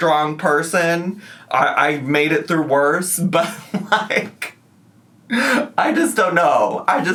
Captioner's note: laughs